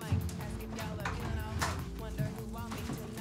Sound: door opens

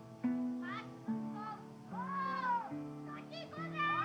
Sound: voices of boys playing baseball

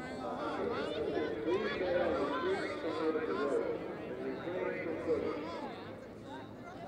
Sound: ambient noise and chatter; voice over loudspeaker

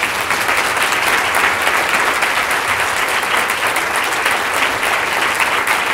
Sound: applause

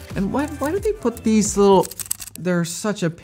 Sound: strap clip clicking

